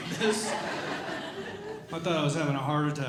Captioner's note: audience Laughing